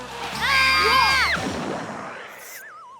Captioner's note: yelling